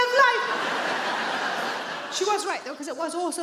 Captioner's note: audience laughing